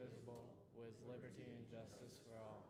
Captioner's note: none